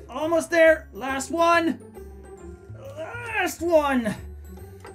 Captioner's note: grunting